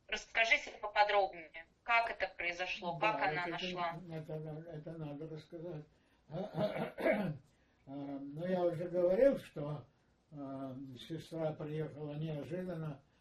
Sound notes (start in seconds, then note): 6.3 clears throat